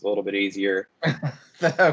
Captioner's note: laughter